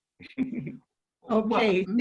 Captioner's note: laughs